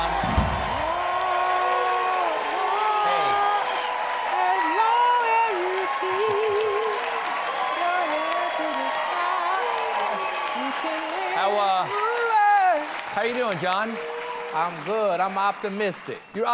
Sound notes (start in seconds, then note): 8.3 cheers and applause; 8.3 singing